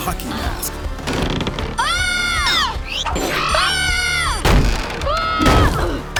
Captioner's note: screaming